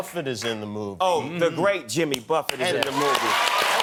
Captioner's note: cheers and applause